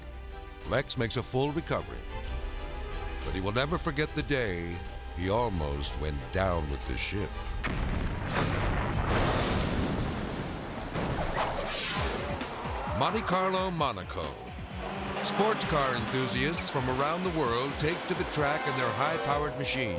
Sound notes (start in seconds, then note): 7.6 explosions booming; 11.0 debris whirring; 11.0 graphic swishing